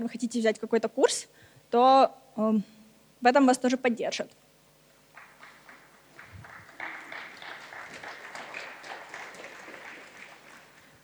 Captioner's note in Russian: аплодисменты